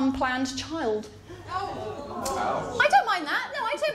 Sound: audience gasps

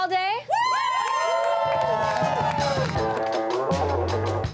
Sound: people cheering

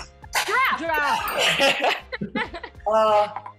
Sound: laughing

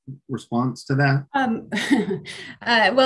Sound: laughing

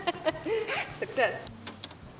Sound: laughs

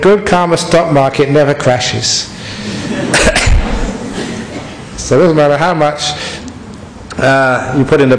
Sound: laughter

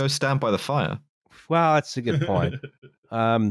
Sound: chuckles

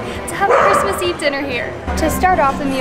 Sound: dog barks

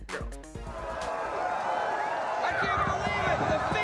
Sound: crowd cheering

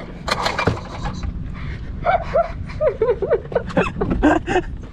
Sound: laughing

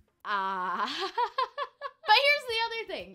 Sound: laughs

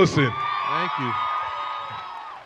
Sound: crowd cheering

